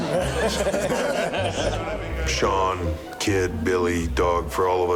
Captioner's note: laugh